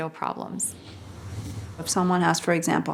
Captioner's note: whooshing